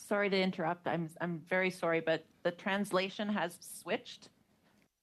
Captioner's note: speaking in French